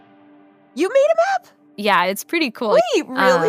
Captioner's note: gasps; laughs